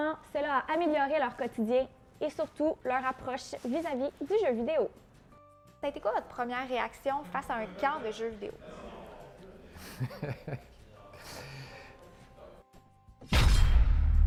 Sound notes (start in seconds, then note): 9.7 laughing